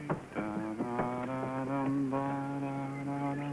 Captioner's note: John humming